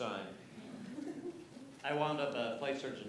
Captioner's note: laughter